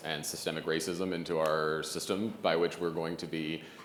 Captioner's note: none